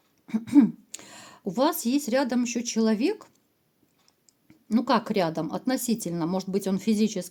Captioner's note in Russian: откашливается